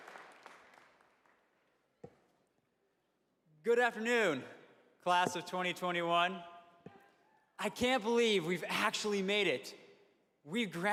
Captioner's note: applause